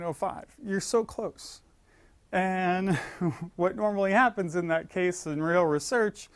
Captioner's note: laugh